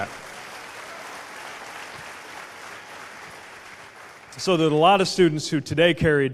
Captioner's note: applause